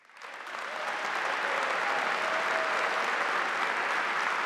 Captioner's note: audience applauding